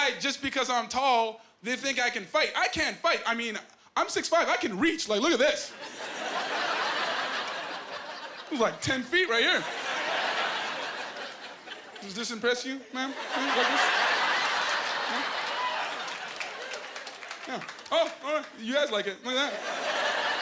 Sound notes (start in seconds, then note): 5.8 laughing; 12.9 laughing; 16.2 applause